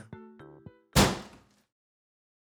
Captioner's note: table Slam